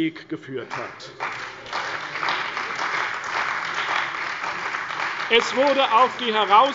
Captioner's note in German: Beifall bei der CDU und dem BÜNDNIS 90/DIE GRÜNEN